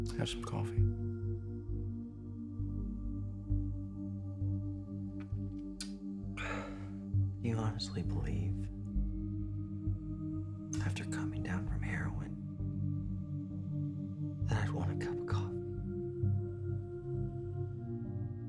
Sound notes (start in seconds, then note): 6.6 chuckles